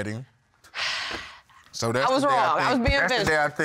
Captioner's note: sighing